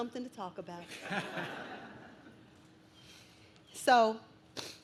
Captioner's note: audience laughs